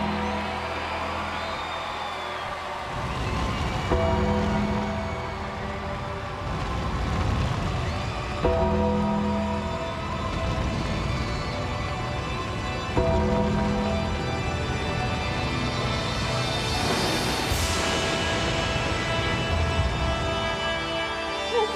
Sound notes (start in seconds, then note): 2.0 fire roaring; 2.4 creepy music; 18.1 creepy music continues